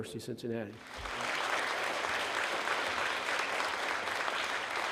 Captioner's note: audience applauding